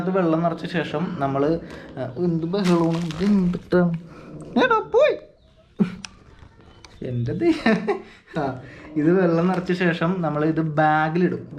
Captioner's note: laughs